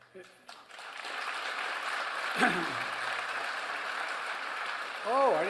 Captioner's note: applause